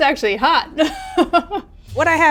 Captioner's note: laughs